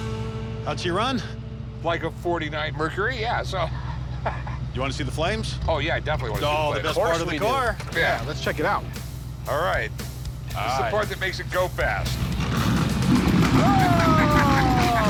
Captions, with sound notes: How'd she run? Like a '49 Mercury, yeah. So... [laughs] You wanna see the flames? -Oh yeah, definitely. -Best part of the car. -Yeah. -Let's check it out. Alright. This is the part that makes it go fast. [engine roars] -Oh! -[laughing]